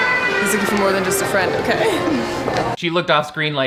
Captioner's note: laughs